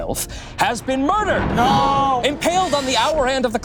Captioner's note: thunder crashing